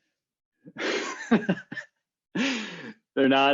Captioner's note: laughing